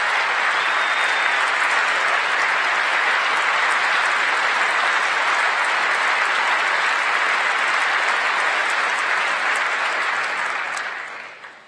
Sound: applause

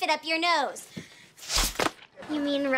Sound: blows

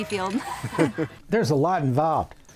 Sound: they laugh

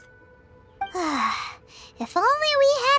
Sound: sigh

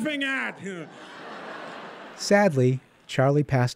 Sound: laughter

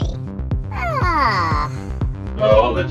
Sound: Bendy Yawns

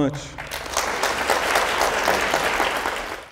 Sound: audience applauds

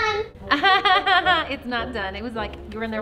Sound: mom chuckles

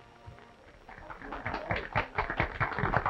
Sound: applause

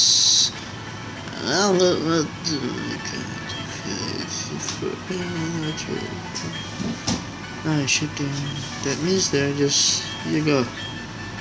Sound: gibberish drunk attempt at girl voice acting

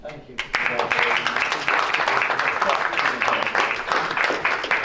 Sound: clapping

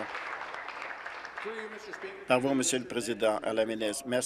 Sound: applause

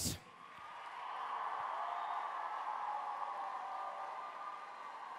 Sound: applause

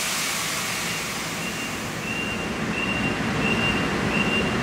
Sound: machine beeps

